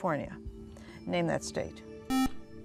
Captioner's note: beeping